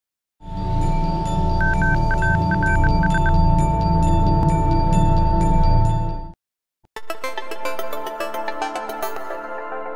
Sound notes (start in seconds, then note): 1.6 beeping; 7.0 synth music